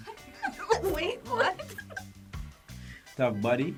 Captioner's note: laughing